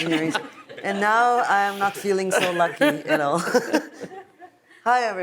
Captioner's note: laughs